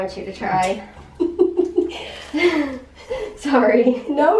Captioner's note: laughter